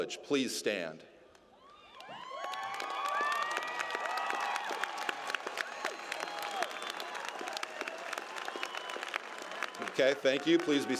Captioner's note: applause